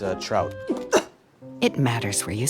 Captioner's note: gags